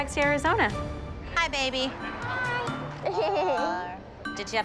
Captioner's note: laughs